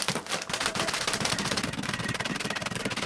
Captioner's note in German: Knackgeräusch